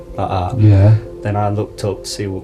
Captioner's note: voiceover